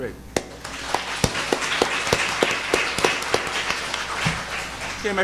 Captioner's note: audience applauding